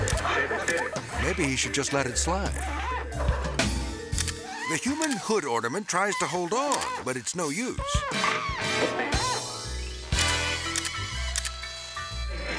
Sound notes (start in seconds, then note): 4.1 slippery metal squeaking; 9.2 whimsical jazz music; 10.6 camera clicking